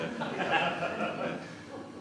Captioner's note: laughter